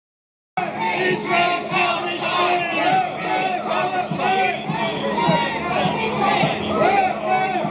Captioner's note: crowd chanting